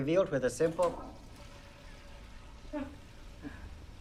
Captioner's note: toilet flushing; Bryn chuckles